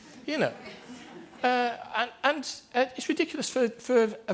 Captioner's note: group laughter